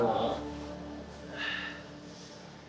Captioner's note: sighs